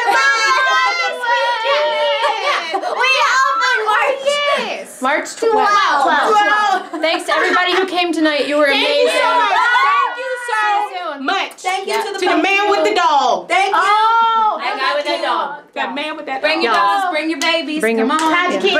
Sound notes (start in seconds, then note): 0.0 cheering; 6.0 laughing; 8.9 cheering